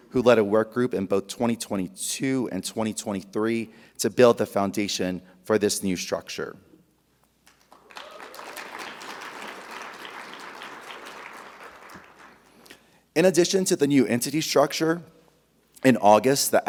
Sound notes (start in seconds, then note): 7.5 audience applauding; 7.7 audience cheering